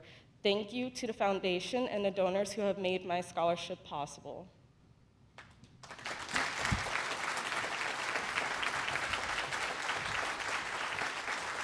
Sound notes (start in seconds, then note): 5.7 applause